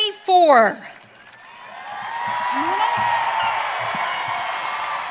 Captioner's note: audience cheering